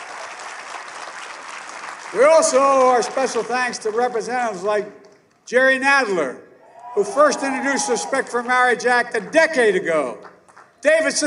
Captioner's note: applause